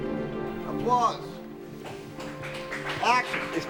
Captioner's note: applause